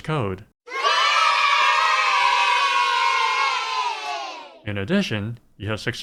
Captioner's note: kids cheering